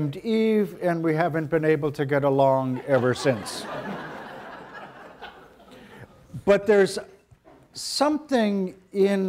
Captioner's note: audience laughter